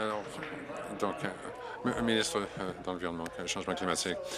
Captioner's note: applause